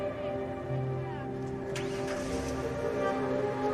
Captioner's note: engine starting